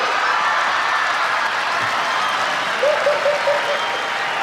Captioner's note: audience laughs; Sinbad laughs